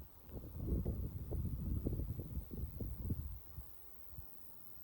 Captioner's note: gentle breeze through the crops